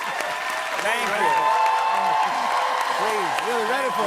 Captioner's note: cheering continues